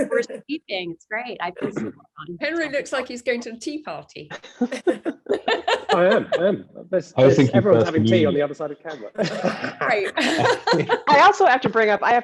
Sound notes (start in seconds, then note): 4.3 all laughing; 8.9 laughs